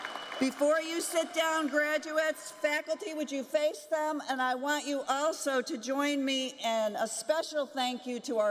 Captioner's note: applause